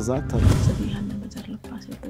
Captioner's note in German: Sie spricht leise